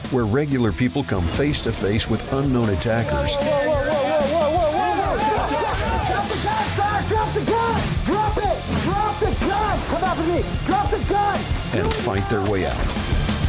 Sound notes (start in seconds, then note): 5.0 people yelling